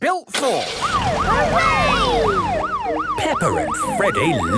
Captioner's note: siren